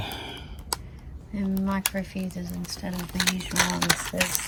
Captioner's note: packet continues to rattle